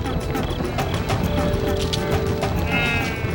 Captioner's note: bleating